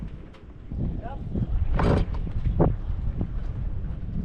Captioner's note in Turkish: Vinç sesi